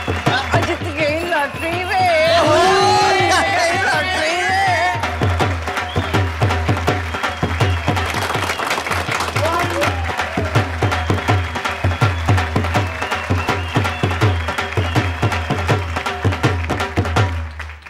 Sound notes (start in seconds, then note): 5.1 cheering and clapping